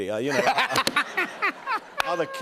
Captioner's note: laughter